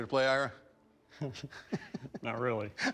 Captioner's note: chuckles